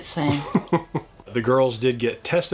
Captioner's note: chuckles